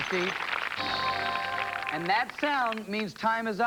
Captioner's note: chime